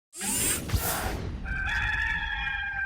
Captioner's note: mechanical sounds; rooster crowing